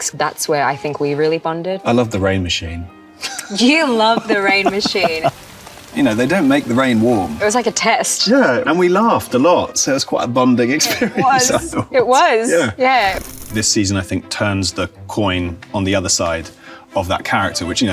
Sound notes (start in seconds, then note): 3.2 laughs; 3.9 rain patters; 10.8 laughs; 13.2 film reel clicks